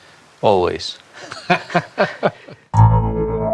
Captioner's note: laughing Together